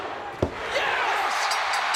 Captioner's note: referee tapping mat; bell ringing